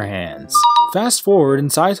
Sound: "Correct!" sound effect

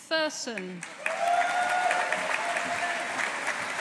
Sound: audience applauding

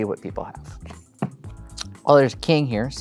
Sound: thumps cards

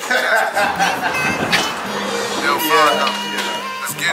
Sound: Kevin laughs

